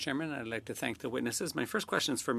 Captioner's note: speaking French